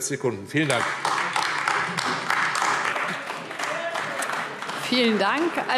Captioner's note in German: Beifall AfD